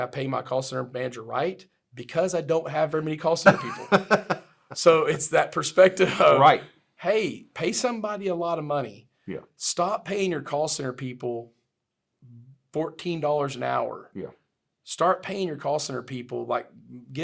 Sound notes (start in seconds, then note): 3.4 laughs